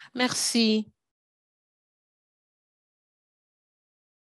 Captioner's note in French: silence